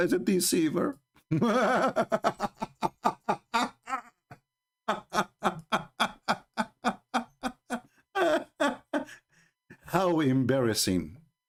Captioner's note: Ketawa